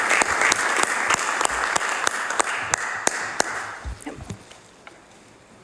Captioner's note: applause